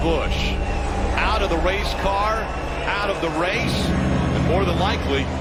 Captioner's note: crowd cheers